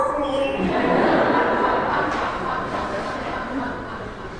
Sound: laughter

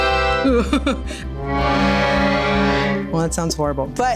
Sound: woman laughs

